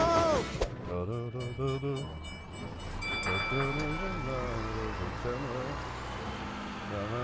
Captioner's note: bulgy hums a tune